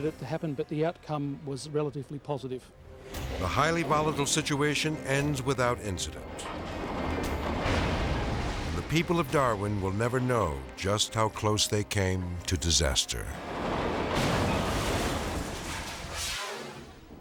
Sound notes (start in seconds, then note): 6.2 boat creaking; 13.4 boat crashing; 15.8 scene swooshing